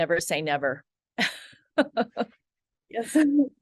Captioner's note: laughs